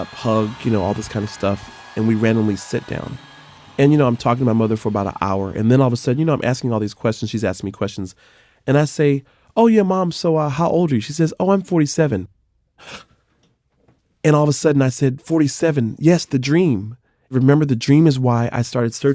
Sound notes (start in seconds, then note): 12.8 gasp